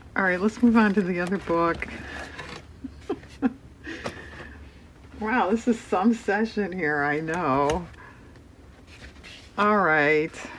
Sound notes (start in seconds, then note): 2.9 laughs